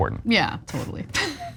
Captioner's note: laugh